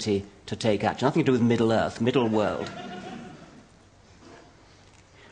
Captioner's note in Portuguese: Risos